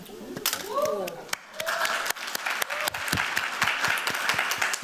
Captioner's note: cheers, applause